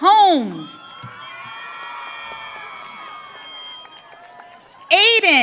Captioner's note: audience cheering